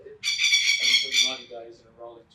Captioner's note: bird chirping